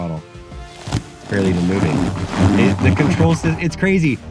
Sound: ice crunching

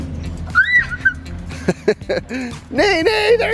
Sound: squeals in delight; laughs

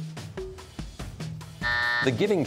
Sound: buzzer

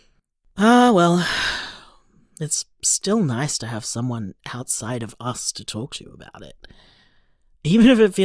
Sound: sigh

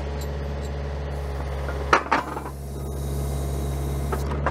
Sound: machine escalates

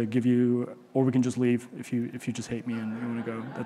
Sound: audience chuckle

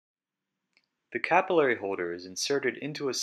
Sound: voiceover

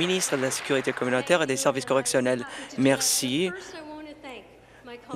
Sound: applause

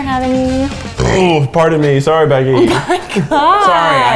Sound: burps

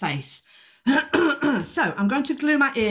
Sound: clearing throat

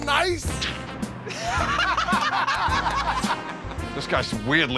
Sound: laughter

